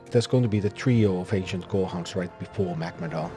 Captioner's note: none